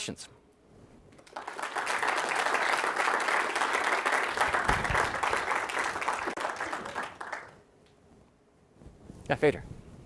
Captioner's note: applause